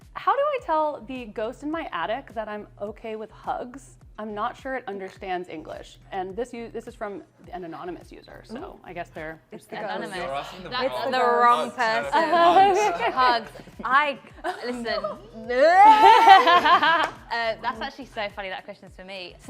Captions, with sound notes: "How do I tell the ghost in my attic that I'm OK with hugs? I'm not sure it understands English." And this-- this is from an anonymous user, so I guess they're-- Anonymous. It's the wrong person. Hugs. I-- listen. [SCREAM] [LAUGHTER] That's actually so funny that question is for me.